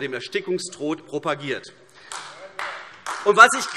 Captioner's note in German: Beifall AfD